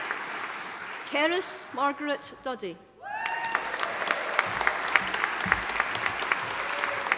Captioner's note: audience applauding